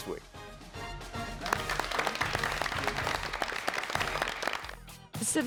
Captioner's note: everyone applauds